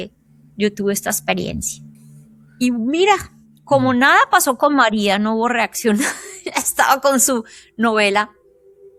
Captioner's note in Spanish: risas